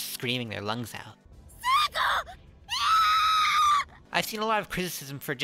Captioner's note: naomi screaming